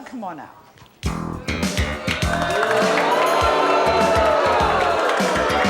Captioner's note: dramatic music; audience jeering